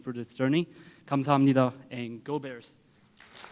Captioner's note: foreign Language